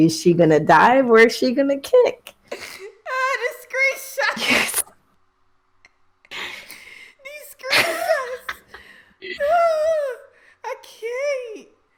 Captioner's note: laughs